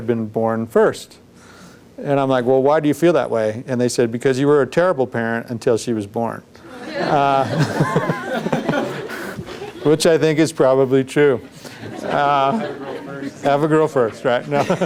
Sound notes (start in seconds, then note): 6.6 laughter